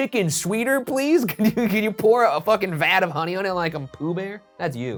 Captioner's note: laughs